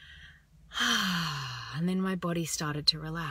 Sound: exhales

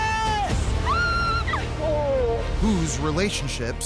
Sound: shrieks

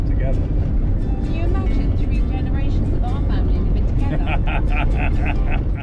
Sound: laughter

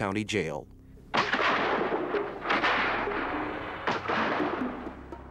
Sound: guns firing

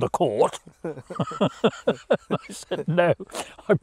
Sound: laughing

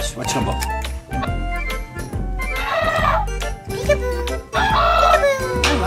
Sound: elephant trumpets

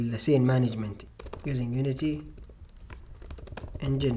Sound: typing

